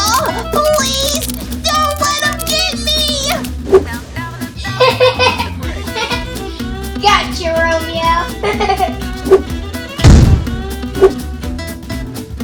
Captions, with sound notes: Oh, please, don't let 'em get me! (giggle) - Gotcha Romeo! (poof)